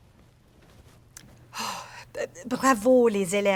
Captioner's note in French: Soupir